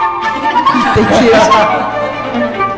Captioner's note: laughter